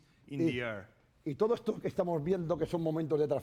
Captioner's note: speaking spanish